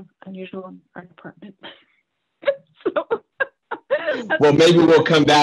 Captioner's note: chuckles